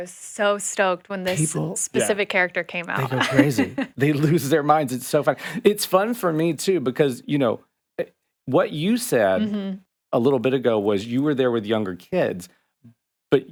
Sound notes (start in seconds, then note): 2.9 chuckling